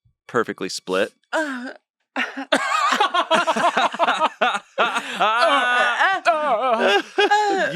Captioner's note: whimpers; everyone laughs